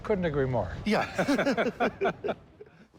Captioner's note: both laugh